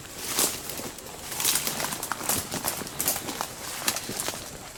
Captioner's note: branches breaking